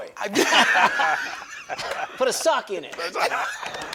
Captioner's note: laughs